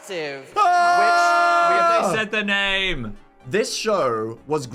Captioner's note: shouting